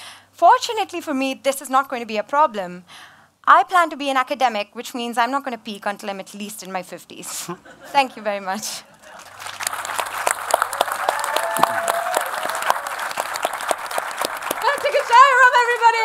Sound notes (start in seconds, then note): 9.0 audience applause